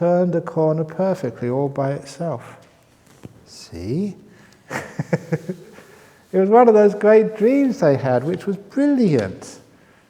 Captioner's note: laughs